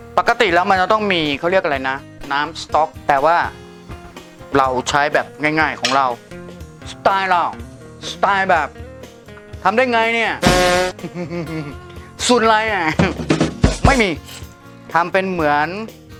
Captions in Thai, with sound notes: ปกติแล้วเค้าจะต้องมีอะไรนะ "น้ำสต๊อก" แต่ว่า เราใช้แบบง่ายๆ ของเรา สไตล์เรา สไตล์แบบ ทำได้ไงเนี่ย..(หัวเราะ) สูตรอะไร...ไม่มี ทำเป็นเหมือน